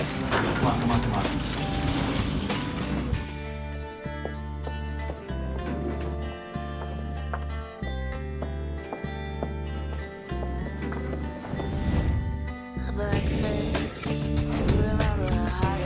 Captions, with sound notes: - Come on, come on, come on. (elevator dinging) (elevator dinging) - ■ A breakfast to a lover ■